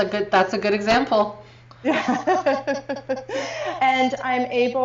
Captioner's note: laughing